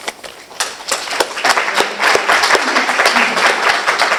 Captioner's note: applause